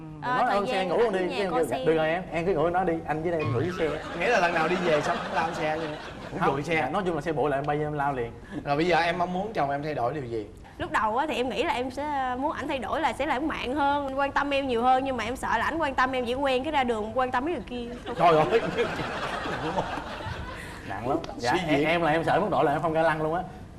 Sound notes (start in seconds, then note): 4.2 laughing; 18.3 laughing